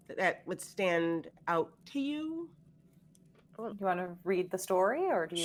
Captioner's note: none